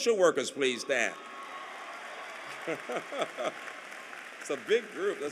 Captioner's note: applause